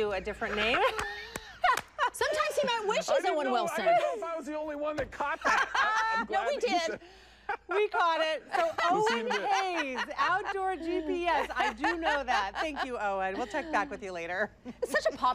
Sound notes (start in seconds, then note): 13.9 laughter